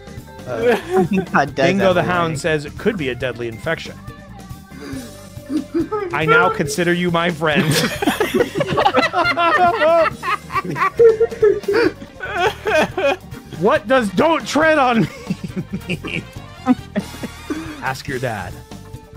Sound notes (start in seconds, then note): 7.5 laughter; 16.2 laughs